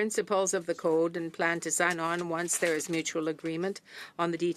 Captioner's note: speaking French